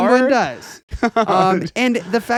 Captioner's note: laughing